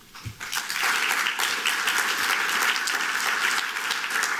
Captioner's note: applause